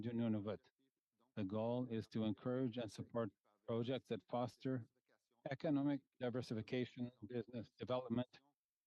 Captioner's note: speaking French